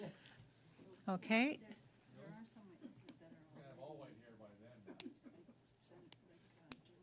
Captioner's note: laughter